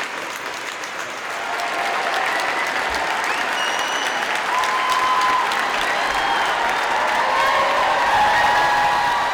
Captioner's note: applause